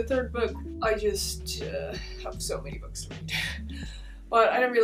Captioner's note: strained voice